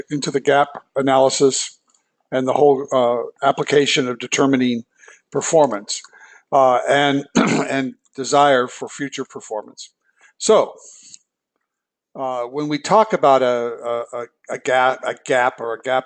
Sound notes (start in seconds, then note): 7.2 cough